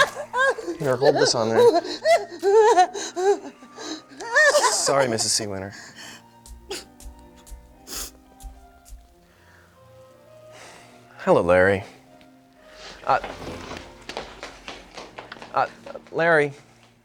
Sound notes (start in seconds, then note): 2.8 Mrs. Seawinner gasps; 7.8 Mrs. Seawinner sniffles